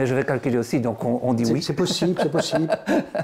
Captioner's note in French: rire